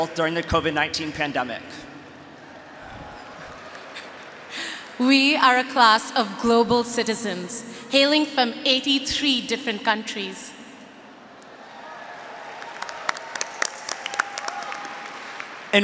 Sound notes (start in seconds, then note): 11.5 audience and graduates cheering; 13.4 audience and graduates applauding